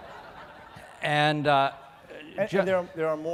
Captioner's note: laughing